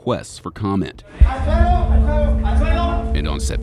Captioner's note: men shouting